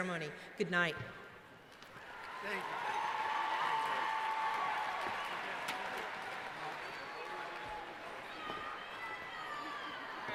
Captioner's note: cheering